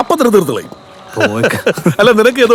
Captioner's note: Nawas laughing